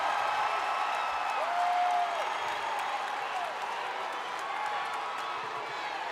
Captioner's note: applause